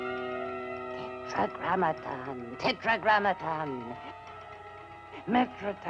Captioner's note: Katrina speaking in foreign language